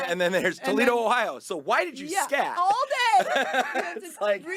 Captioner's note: laughing